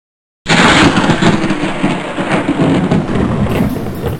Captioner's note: lightning cracks